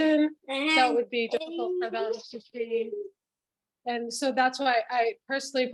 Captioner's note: children's voices in background